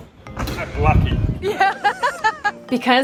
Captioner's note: laughs